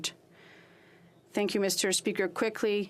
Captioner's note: speaking French